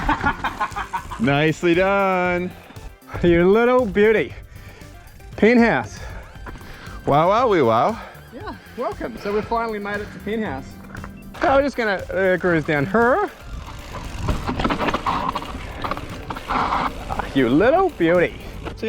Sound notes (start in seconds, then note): 0.0 laughs; 7.5 imitates Borat